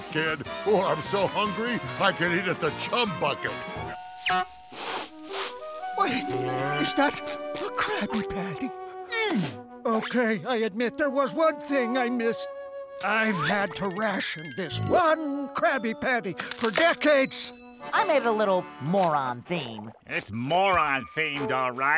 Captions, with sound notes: or I'm so hungry I could eat at the Chum Bucket. [sniffing] Wait, is that, a Krabby Patty? Okay, I admit there was one thing I missed. I've had to ration this one Krabby Patty for decades. I make a little more on theme. It's moron themed, all right.